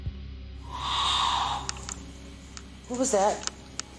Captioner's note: growling